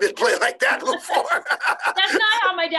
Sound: laughing

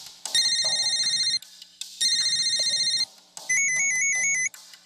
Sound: phone rings brightly; phone rings sharply

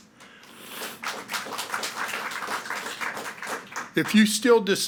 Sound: audience clapping

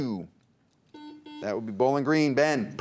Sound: buzzer beeps

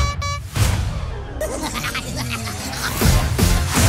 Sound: maniacal laughter; upbeat electronic music

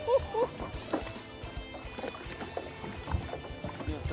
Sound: laughs

